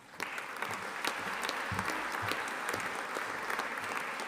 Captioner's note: audience applauding